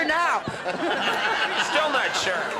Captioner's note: laughs